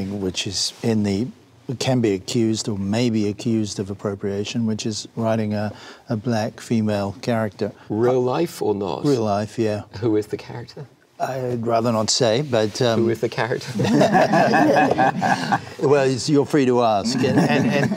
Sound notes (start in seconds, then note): 13.7 laughter